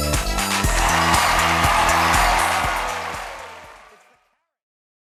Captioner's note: audience cheering